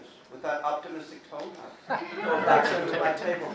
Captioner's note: laughing